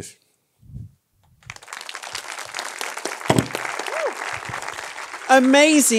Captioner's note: audience applauds